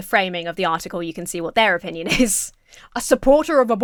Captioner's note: chuckles